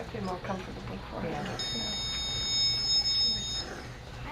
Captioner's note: monitor Beeps